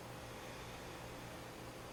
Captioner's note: breathing sounds